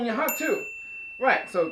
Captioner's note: bell ring